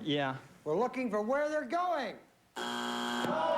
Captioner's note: buzzer